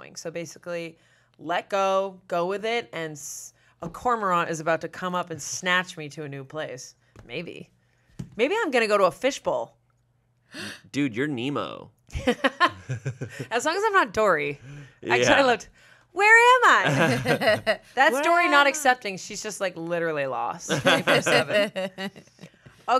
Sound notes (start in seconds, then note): 12.1 laughs; 16.8 everyone laughs; 20.7 everyone laughs